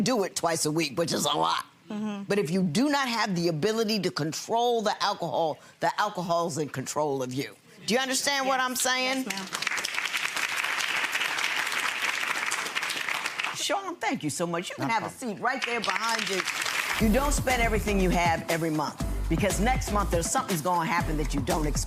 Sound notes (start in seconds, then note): 8.8 audience claps